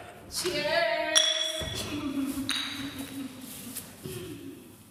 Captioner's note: bottles clink